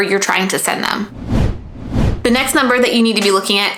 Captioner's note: digital whooshing